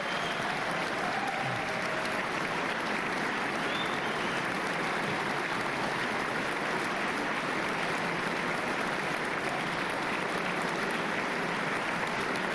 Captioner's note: applause